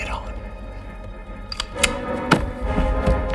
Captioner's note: gun cocks